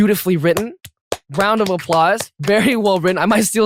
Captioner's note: clapping noises